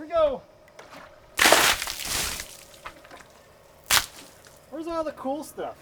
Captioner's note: water splatters